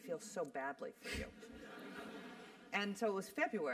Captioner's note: laugh